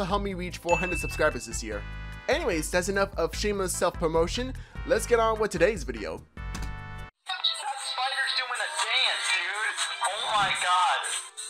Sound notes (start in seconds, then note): 6.5 click